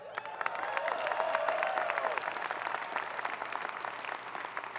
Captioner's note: people clapping